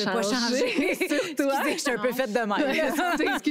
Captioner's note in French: rires